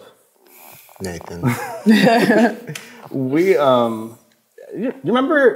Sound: laugh

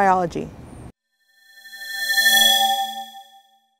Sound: swoosh

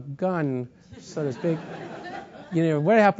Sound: laugh

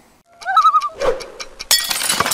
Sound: loon call

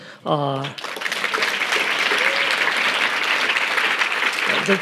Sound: audience applauding

